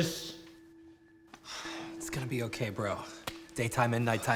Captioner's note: sighs